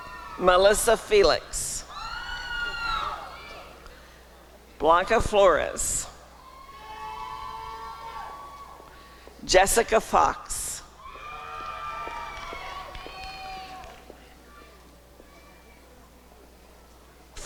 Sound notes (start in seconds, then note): 1.3 applause and cheering; 6.9 applause and cheering; 11.0 applause and cheering